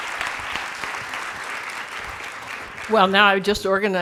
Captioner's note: clapping stops